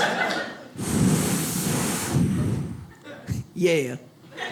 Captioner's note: imitates airlock; audience laughs